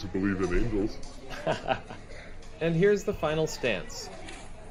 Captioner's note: laughs